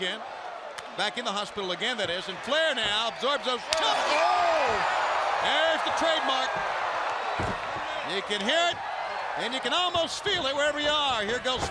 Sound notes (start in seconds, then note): 5.5 crowd cheering; 7.5 crowd cheering